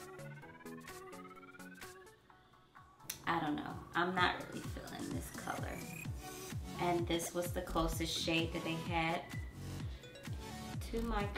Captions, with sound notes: (tongue clicking) I don't know. I'm not really feelin' this color. And this was the closest shade that they had to my color.